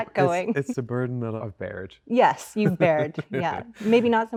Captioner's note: laughing